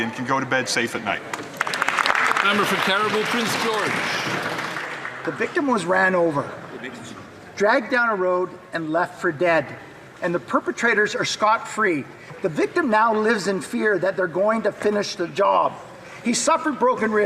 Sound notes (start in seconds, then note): 5.8 some Applause